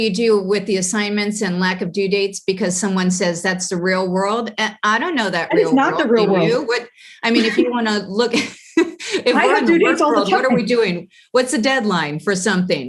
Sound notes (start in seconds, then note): 9.1 laugh